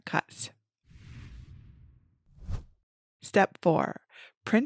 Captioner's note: image whooshes